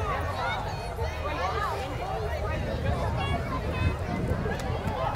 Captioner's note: chattering continues